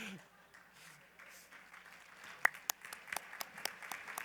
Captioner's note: applause; laughter